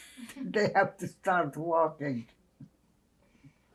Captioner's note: laughing